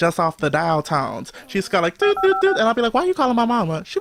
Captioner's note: phone dialing sound